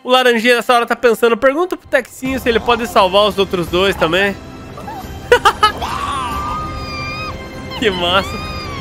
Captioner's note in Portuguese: risos